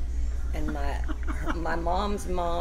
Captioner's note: laughs